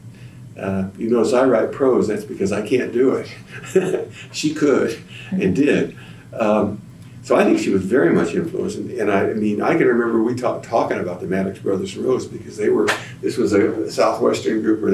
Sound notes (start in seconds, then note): 3.3 laughs